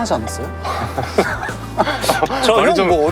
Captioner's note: haha